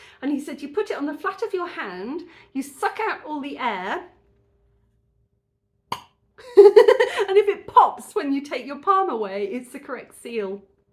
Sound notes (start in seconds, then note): 5.9 pop; 6.4 giggling